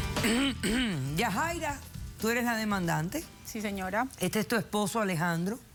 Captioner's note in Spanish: carraspea